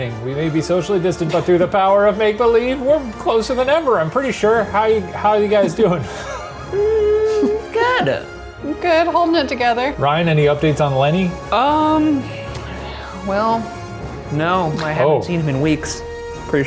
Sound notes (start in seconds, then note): 5.7 laughing